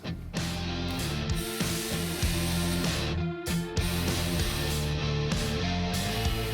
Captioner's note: intense rock music; tool whirring